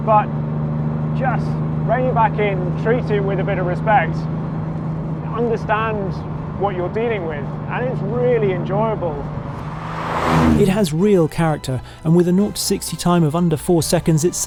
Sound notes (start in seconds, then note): 9.0 car engine humming